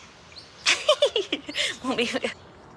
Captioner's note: laughs